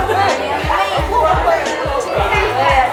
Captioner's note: takbir